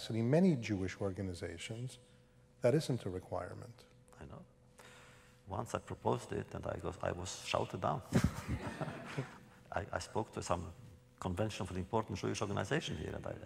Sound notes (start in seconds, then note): 8.1 laughter